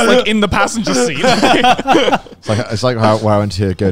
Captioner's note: laughs